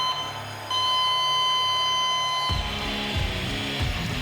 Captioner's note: heart monitor beeps; flatlines; rock music plays